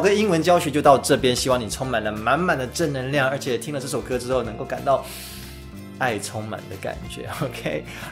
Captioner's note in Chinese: 吸氣